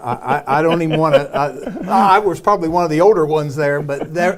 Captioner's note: laughter